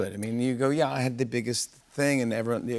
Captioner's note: none